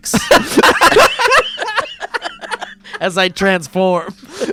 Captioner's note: laughing